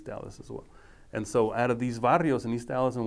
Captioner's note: speaking foreign language